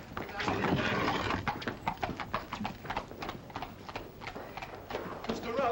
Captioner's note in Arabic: الحوافر تركض بعيدا